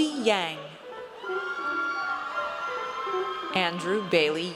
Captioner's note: audience cheers